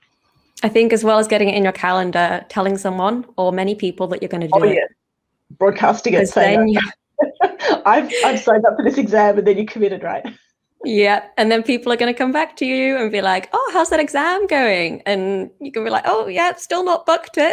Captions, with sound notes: I think as well as getting it in your calendar, telling someone - or many people - that you're gonna do it. Oh, yeah. Broadcasting it. Same. (LAUGHS) "I've signed up for this exam." And then you're committed, right? Yeah, and then people are gonna come back to you and be like, "Oh, how's that exam going?" and you can be like, "Oh, yep. Still not booked it,"